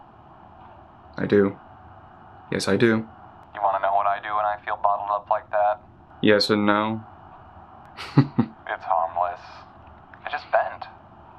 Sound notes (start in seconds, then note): 7.9 laughs